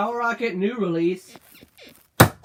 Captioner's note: bed squeaks